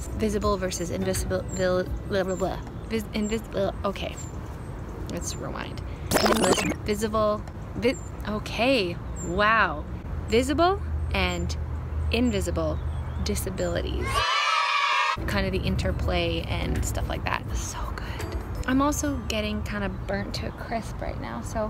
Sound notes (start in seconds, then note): 6.1 tape rewinding; 14.0 children cheering